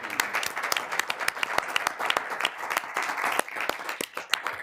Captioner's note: applause